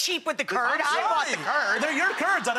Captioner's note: laughing